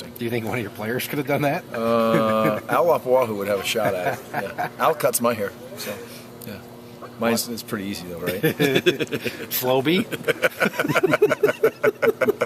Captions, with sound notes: >> Do you think one of your players could have done that? [chuckling] >> Al Lapuaho would have a shot at it, yeah. Al cuts my hair. So, yeah. Mine's pretty easy, though, right? [laughing] >> Slopey? [laughing]